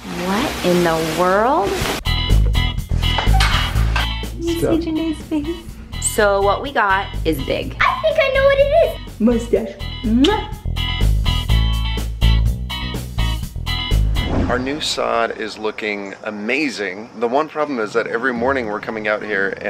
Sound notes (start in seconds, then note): 10.1 kissing; 11.2 upbeat music